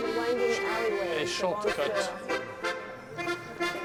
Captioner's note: speaks French